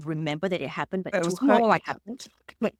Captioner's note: cough